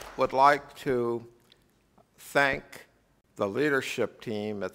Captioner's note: applause